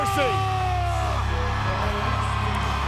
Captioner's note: Batista yelling